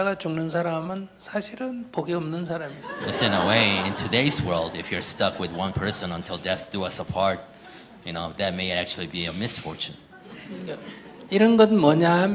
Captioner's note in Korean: 질문자와 청중 웃음